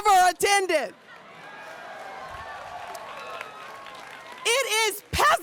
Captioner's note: audience cheers and applauds